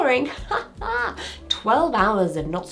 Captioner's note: person laughing